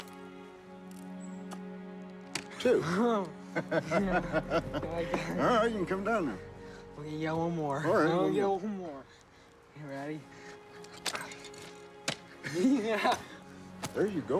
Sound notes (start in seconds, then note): 3.4 laughs